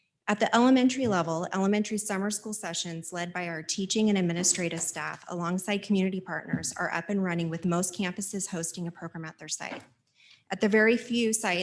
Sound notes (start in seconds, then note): none